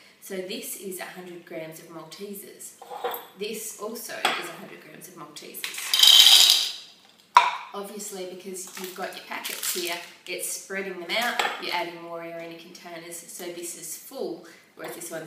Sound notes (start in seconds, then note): 5.8 pouring noise